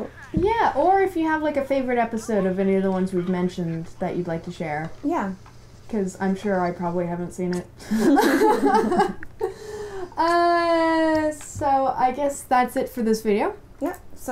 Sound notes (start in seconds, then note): 7.9 laughter